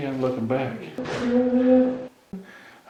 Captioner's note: moan